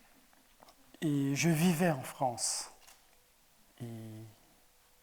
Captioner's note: speaking in French